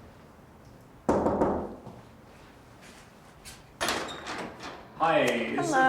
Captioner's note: Randy knocking door